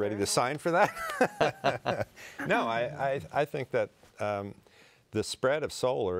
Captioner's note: laughs